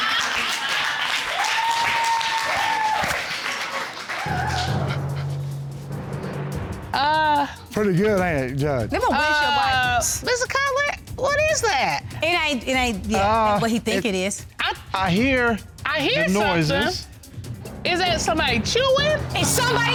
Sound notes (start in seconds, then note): 0.0 audience cheering